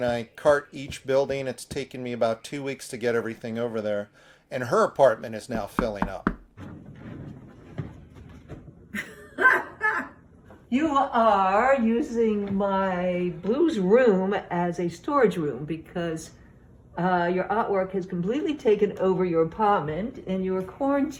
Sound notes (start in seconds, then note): 5.7 door thudding; 8.9 chuckles